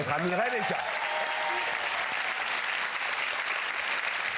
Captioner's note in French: applaudissements